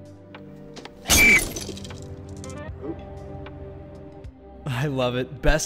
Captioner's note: mirror shattering